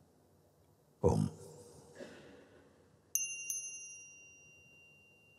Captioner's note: sound of the bell